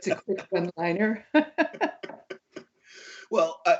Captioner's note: laughter